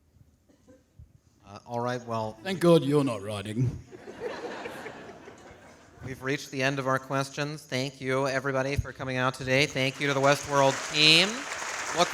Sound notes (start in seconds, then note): 3.9 audience laughing